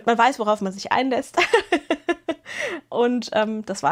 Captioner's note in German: gelächter